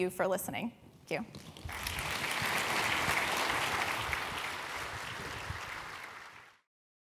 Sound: applause

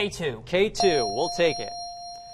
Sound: ding

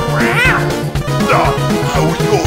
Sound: heavy sad noises

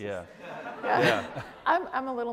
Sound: audience laughs

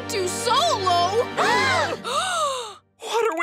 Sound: gasping

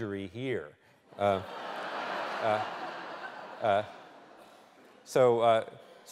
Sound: laughter

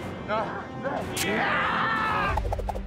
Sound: screaming

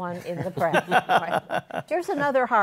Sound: laughter

